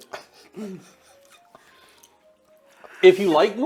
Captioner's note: laughing